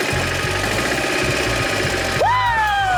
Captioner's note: engines revving